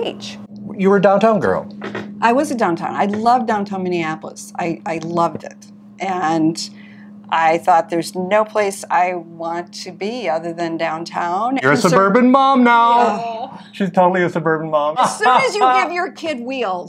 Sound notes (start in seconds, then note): 12.9 groans